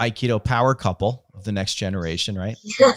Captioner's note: laughing